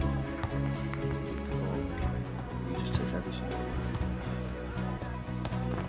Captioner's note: berbicara dengan lembut